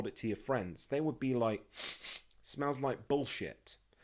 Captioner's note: sniff sniff